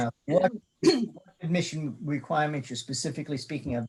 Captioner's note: murmurs